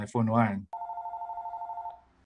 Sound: phone ringing

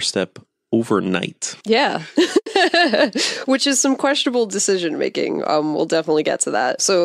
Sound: laughs

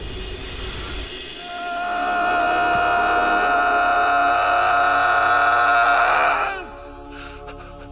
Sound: screaming

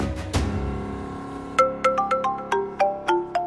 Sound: mobile phone ringing

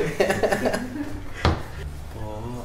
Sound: evil laughter

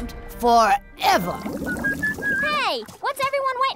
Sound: whistling

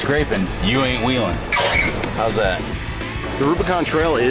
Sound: metal screeches

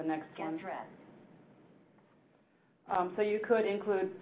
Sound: electronic Voice

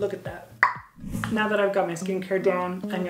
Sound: tongue click

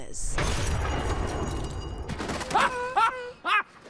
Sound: appliance cracking; Peacemaker laughing

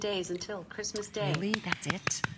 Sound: electronic voice

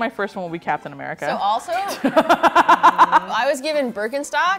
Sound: laughs

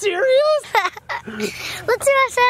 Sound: laughs

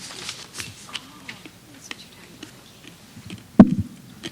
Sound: indistinct chatter

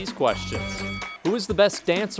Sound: bell rings

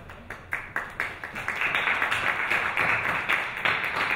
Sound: audience applauds

